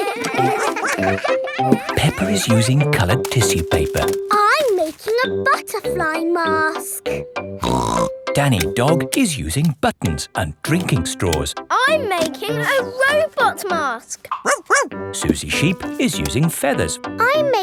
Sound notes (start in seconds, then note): 0.0 all giggling; 7.6 snorts; 14.4 barks